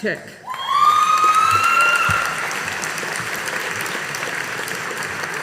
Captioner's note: audience applauding